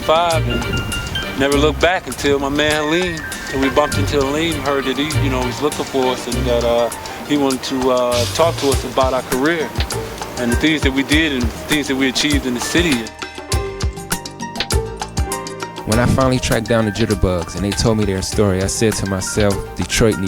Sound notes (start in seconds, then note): 15.6 voiceover